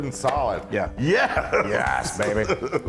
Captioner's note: laugh